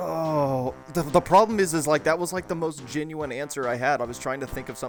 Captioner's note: groans